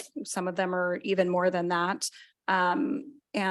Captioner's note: none